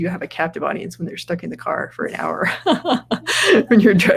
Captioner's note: laughs